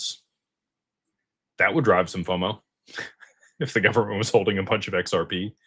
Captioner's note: laughter